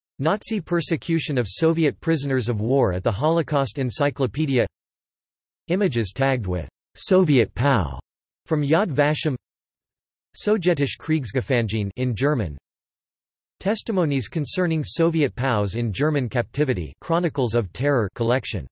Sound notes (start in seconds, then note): 12.3 in German